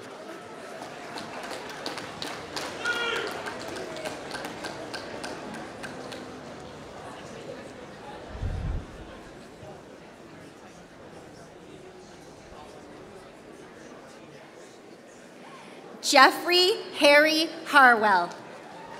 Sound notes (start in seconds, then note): 15.2 applause